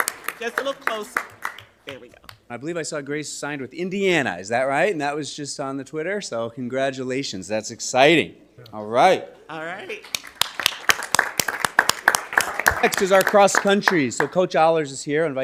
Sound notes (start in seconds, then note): 10.0 audience applauding